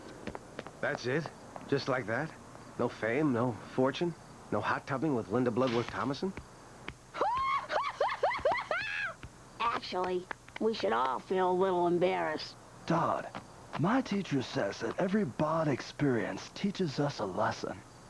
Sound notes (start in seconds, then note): 7.2 laughing